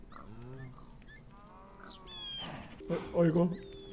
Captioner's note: text-to-speech; ambient animal noises